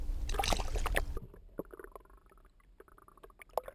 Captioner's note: water gurgling